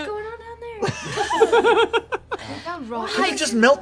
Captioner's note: laughter